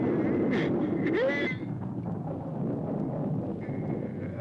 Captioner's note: groaning